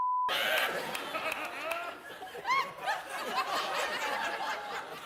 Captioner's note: audience laughs